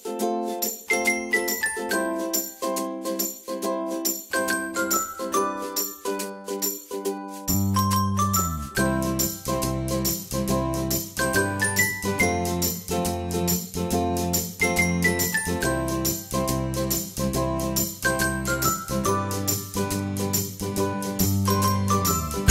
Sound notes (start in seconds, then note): 5.2 brand chimes